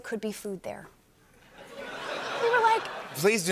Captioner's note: laughter